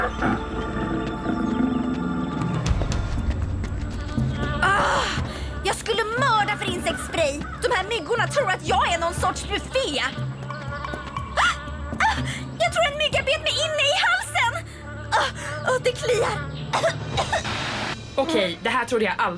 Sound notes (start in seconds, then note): 4.6 groans; 12.0 gasps; 16.7 coughs